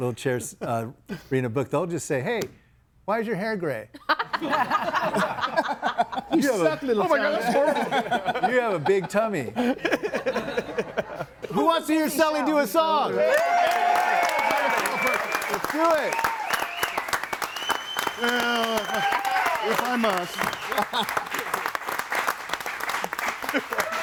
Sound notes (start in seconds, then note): 5.7 group laughs; 6.3 group chattering; 10.8 group laughs; 14.0 audience applauds and cheers; 21.6 audience applauds